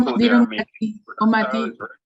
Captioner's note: murmurs